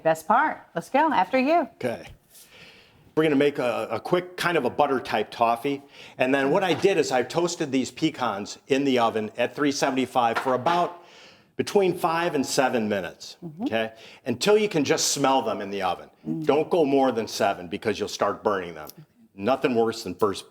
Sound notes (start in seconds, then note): none